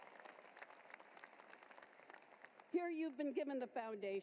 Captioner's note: applause